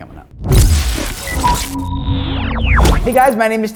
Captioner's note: electronic tones